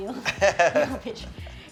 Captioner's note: laughs